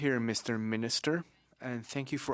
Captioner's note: speaking French